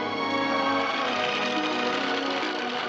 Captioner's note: horse cantering